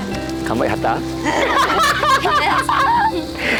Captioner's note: both laughing